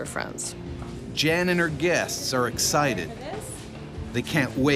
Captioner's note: voiceover